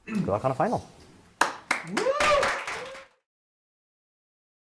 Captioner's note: applause